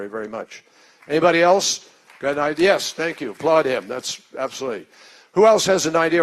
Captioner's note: applause